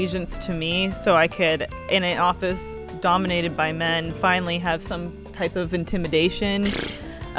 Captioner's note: scoffs